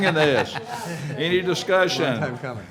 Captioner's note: laughing